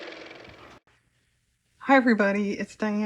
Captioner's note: car motor